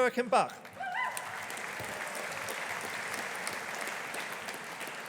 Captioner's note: audience applauding